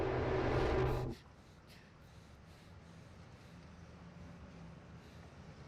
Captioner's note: Olive breathing heavily